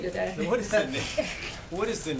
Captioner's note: laughter